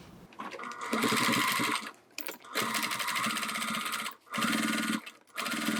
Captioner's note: sewing machine whirring